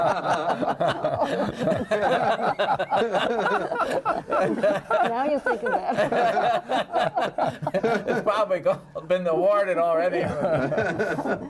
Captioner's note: laughing